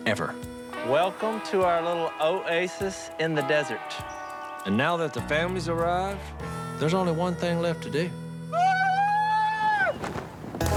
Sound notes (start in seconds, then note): 8.5 screams